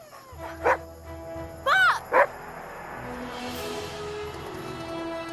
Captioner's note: dogs whining; Buck barking